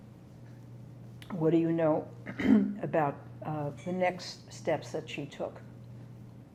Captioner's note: clears throat